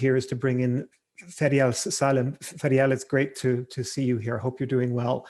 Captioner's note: murmurs